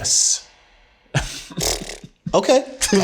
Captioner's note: all laughing; laughs; blows raspberry